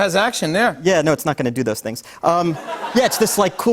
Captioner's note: laughter